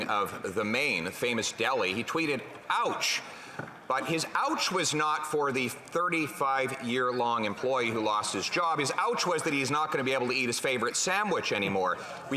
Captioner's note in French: voix de l'interprète